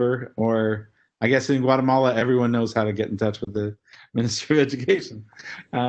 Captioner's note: laugh